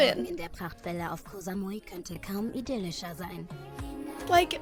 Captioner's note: show host speaking in German